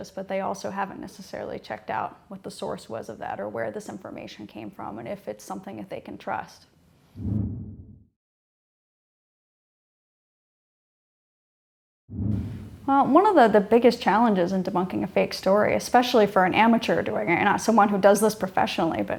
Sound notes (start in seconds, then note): 7.2 air whooshing; 12.1 air whooshing